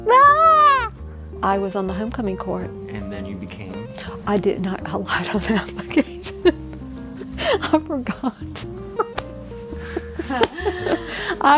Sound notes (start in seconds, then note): 7.1 laughing; 9.0 clapping hands